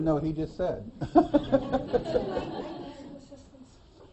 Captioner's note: laughter